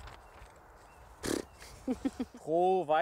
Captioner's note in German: Er prustet